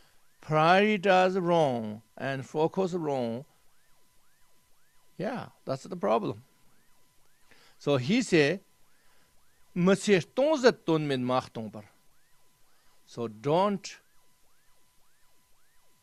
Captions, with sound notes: Prioritise wrong and focus wrong. Yeah, that's the problem. So he say, [Tibetan]. So don't